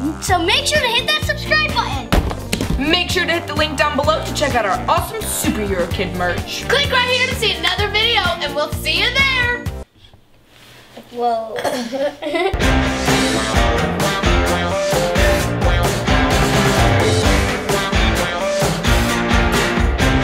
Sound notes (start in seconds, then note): 11.6 laughs; 12.5 upbeat rock music